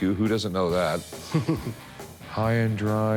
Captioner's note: laughs